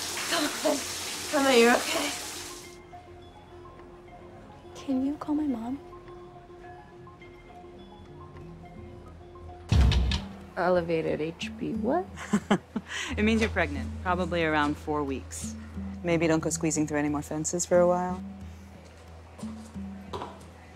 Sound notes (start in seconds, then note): 12.1 chuckles